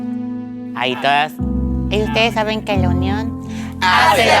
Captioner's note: regular voice